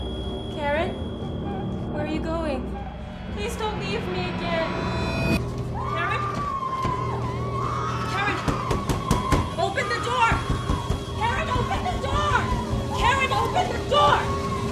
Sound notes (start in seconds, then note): 6.2 screaming behind the door; 12.5 screaming continues